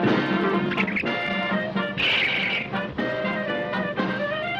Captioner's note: monkey chittering